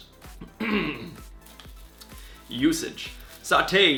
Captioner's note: clears throat